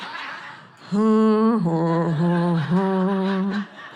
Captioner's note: audience laughing; humming